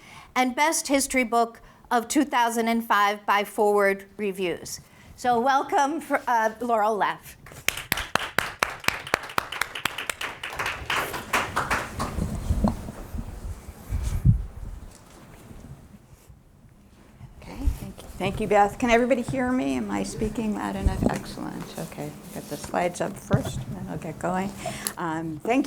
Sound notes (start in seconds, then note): 7.4 crowd clapping